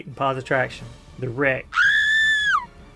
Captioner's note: scream